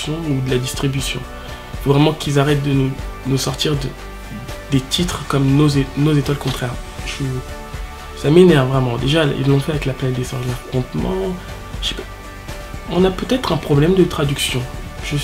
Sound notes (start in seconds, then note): 11.0 in french